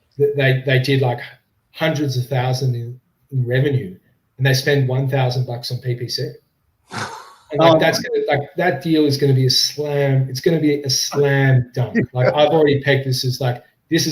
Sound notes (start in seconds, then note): 6.9 laughs; 11.1 laughs